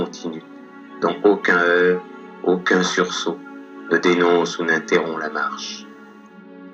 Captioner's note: voiceover of man speaking in french